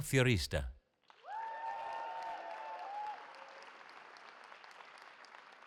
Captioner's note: cheering